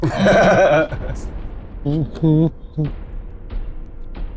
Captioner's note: chuckles